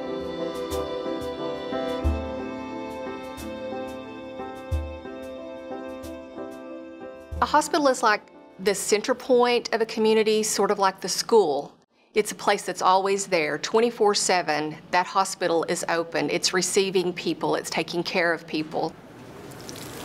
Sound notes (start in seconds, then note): 0.6 dogs barking-music